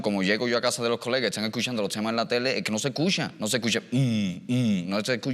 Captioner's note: imitates sub-bass sound